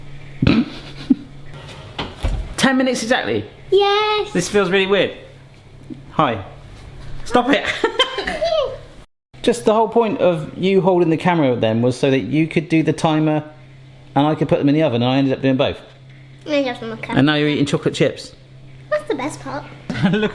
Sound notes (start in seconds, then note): 0.5 laughs; 1.6 oven clicks; 7.8 laughs